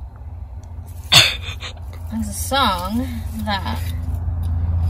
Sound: chuckles

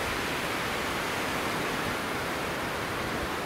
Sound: waves crashing

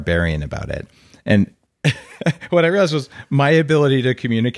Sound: laughing

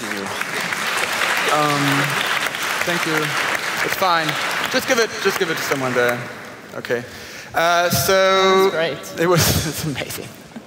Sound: applause

